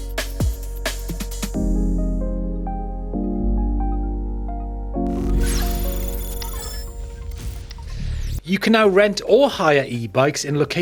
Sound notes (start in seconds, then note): 5.0 logo whooshes electronically